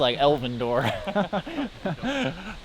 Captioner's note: both laugh